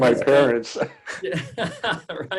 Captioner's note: laughs